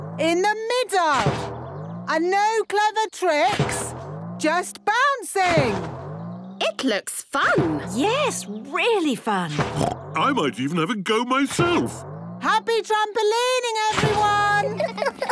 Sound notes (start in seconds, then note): 9.6 snorts; 14.5 all laughing